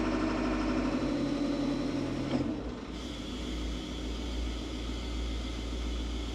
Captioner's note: construction vehicle humming continues